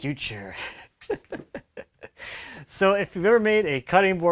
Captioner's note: man laughs